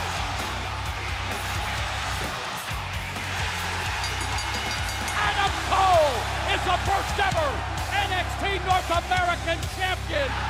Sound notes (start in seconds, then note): 3.9 bell ringing; 10.3 crowd cheering